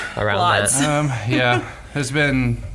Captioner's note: laughs